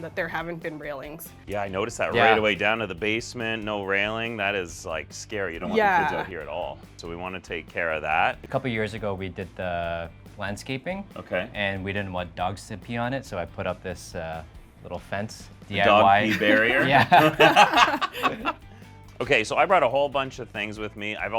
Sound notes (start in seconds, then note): 15.9 group laughs